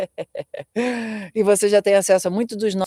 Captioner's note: laughter; sighing